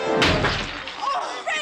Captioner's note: vase smashing